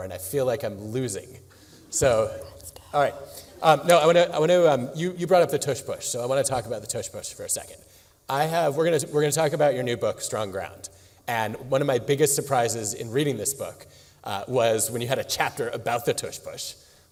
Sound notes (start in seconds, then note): 2.6 whispering